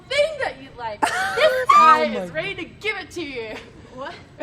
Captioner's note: laughing